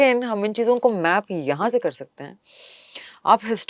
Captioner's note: nasal sound